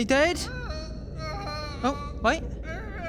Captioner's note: distant moans of agony